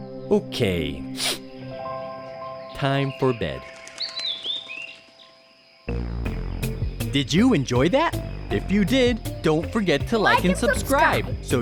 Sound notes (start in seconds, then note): 1.1 sniffles; 4.1 bird sing